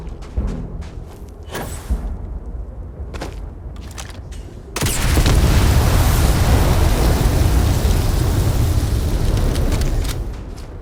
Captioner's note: gunshots